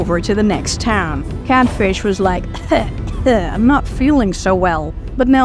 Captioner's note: cough